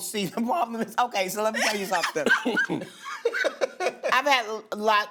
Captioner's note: laughter